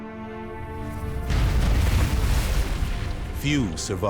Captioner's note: explosion booms